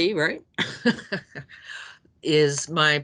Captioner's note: laughing